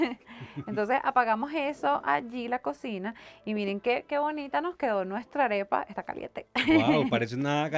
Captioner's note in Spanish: risas